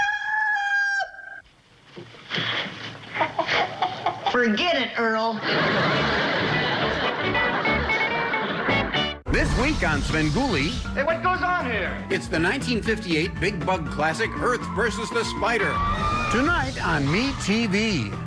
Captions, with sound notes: (crows) (clucking) Forget it, Earl.